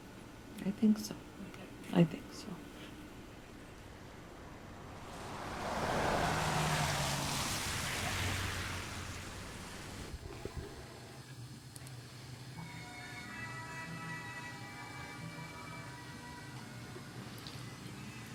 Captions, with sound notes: I think so, Ethan. I think so. (vehicles humming by) (mouse clicking)